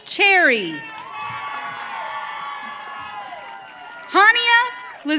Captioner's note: audience cheering